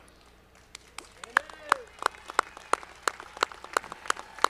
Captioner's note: audience clapping